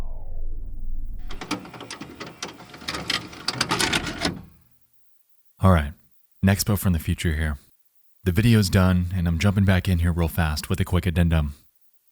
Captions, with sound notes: (VHS machine whirring) All right, Nexpo from the future here. The video's done and I'm jumping back in here real fast with a quick addendum.